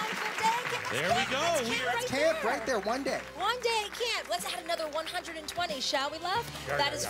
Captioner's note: applause